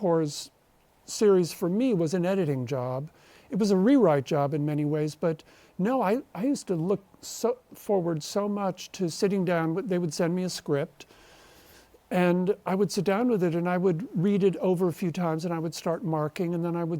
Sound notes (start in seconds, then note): none